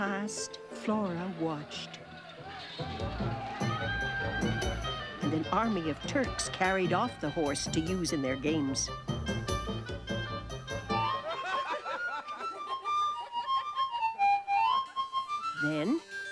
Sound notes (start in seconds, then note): 11.1 laughter